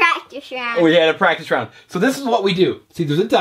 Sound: voiceover

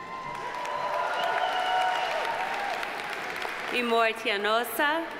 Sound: audience applauding

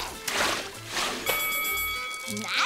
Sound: dinging

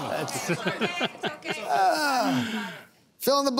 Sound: laughter

